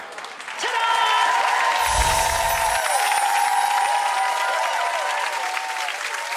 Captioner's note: audience applauding